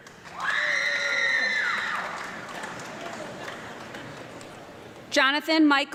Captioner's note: audience clapping and screaming